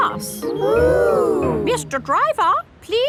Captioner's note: kids gasps in awe